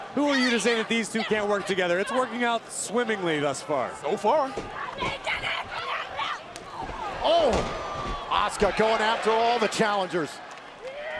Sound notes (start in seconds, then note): 4.5 crowd chatter